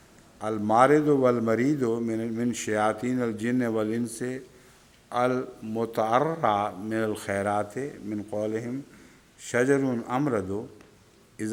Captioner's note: Arabic